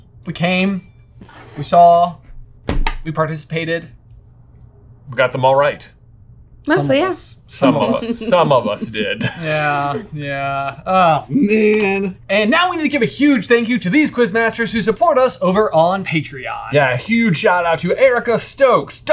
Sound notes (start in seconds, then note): 7.6 laughing